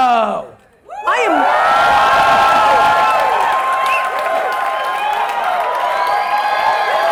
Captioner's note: audience cheers